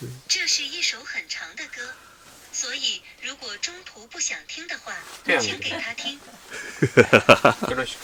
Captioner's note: repeats in Mandarin